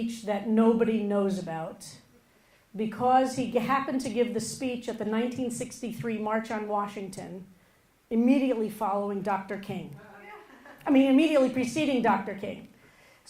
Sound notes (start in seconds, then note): 10.1 audience laughing